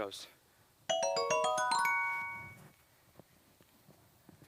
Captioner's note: dings